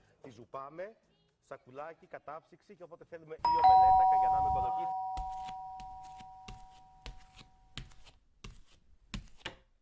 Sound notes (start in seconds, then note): 3.4 doorbell rings